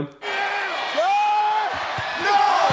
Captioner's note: crowd screaming; announcers shouting